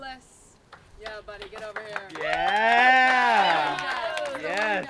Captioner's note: applause